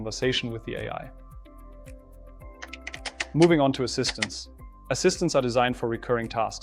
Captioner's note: keyboard clicking